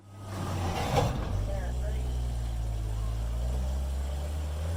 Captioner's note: truck engine revving